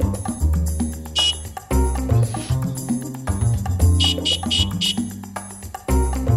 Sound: bike horn

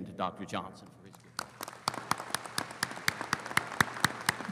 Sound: audience applauding

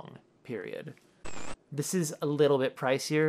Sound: static

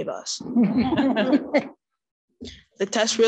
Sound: audience chuckling

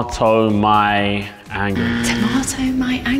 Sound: incorrect buzzer

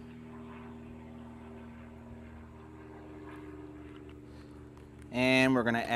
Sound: helicopter engine roars

